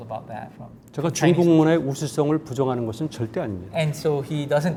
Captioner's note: speaking in Korean